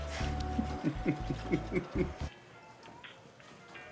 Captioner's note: Ray laughs; upbeat music